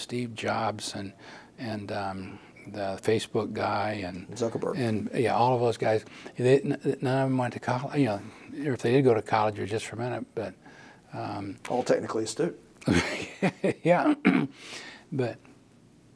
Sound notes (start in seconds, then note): 12.8 laugh